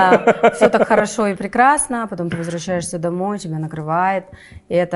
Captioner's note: laughs